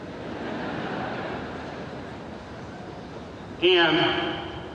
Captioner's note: audience laughing